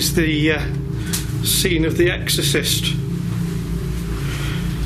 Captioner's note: none